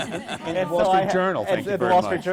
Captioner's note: laughter